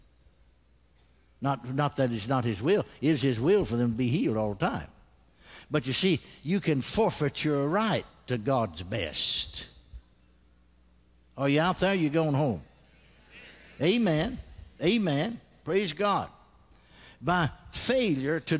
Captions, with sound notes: HEALED. NOT, NOT THAT IT'S NOT HIS WILL. IT'S HIS WILL FOR THEM TO BE HEALED ALL THE TIME. BUT YOU SEE, YOU CAN FORFEIT YOUR RIGHT TO GOD'S BEST. ARE YOU OUT THERE OR YOU GONE HOME? (CONGREGATION RESPONDS) AMEN. AMEN. PRAISE GOD.